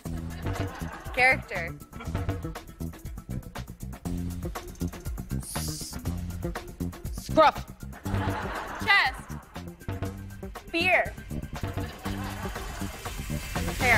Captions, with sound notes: - Curves. [laughter] - Character. [suspenseful music] - S--scruff. - Chest! - Beer!